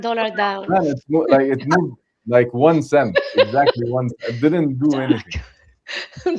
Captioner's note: laughter